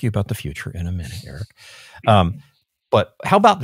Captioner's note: laughs